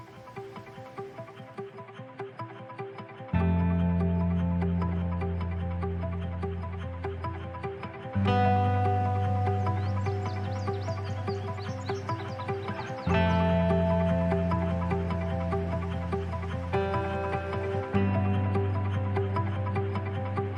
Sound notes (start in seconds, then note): 0.2 soft upbeat music; 9.3 birds singing